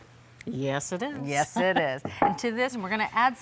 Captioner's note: laughing